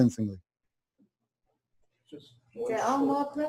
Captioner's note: pause